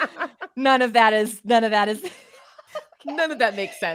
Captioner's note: both laugh; laughs